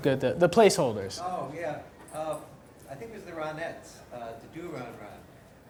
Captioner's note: voiceover